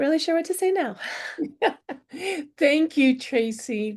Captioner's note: laughter